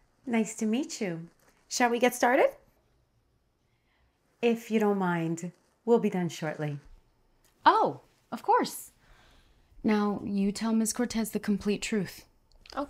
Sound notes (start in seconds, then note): none